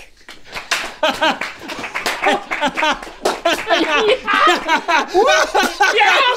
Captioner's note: clapping; Rhett and Link laughing and cheering